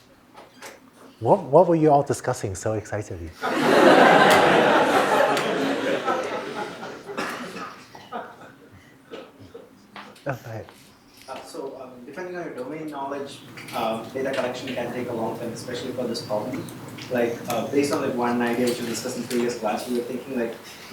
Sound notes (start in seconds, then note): 3.3 laughter